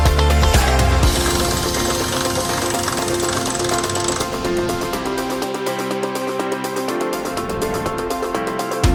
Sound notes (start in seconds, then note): 1.0 crank whirring; 5.3 upbeat music